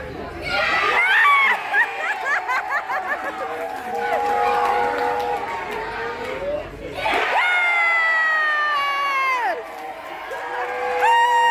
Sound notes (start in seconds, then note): 0.5 mad cheering and laughing; 6.9 more mad cheering